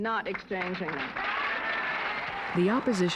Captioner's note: applause